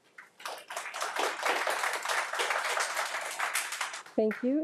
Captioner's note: audience applauding